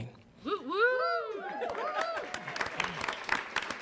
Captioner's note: cheer; audience cheers; audience applauds